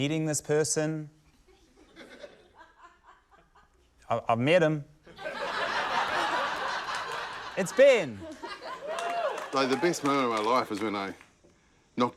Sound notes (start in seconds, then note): 2.0 scattered laughter; 5.0 laughter; 8.6 whooping